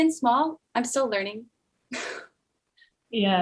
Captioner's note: laughs